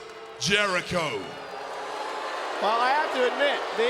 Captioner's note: audience cheering